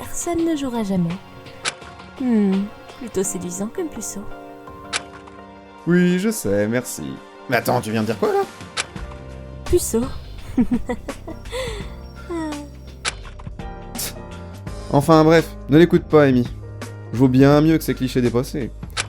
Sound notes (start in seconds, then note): 9.8 laugh